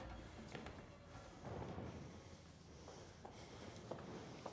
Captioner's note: breathing heavily